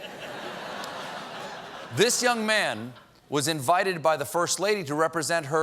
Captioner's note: laughter